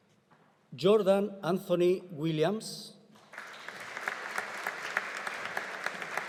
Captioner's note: audience applauding